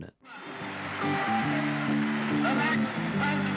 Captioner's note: applause